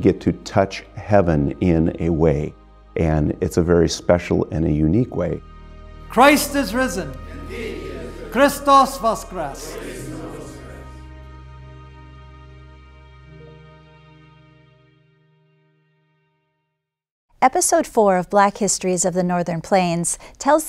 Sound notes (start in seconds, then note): 9.1 repeated in Ukrainian